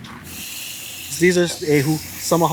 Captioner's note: water hisses